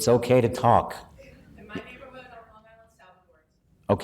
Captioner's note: chatter